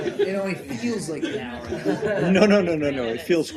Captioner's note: laughter